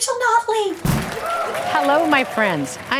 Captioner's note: applause